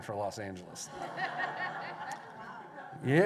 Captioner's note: laughter